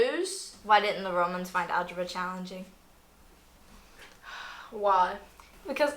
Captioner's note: sigh